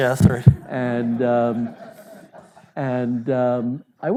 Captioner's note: audience laughing